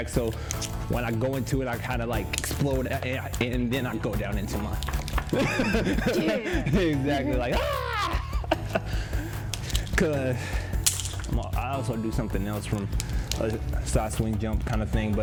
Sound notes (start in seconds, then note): 5.3 laughs; 8.5 chuckles